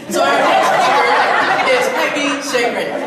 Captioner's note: audience laughs